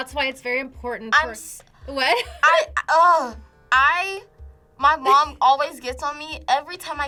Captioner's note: laughs